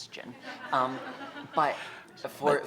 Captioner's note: laughter